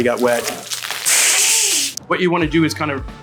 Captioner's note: pet-nat fizzing